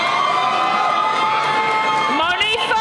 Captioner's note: cheering